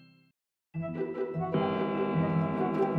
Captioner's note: clock chiming